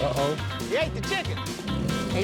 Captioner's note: growling